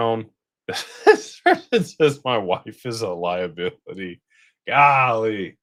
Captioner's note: laughter